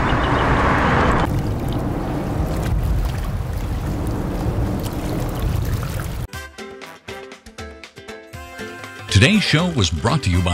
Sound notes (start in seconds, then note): 1.2 water sloshes; 8.3 upbeat music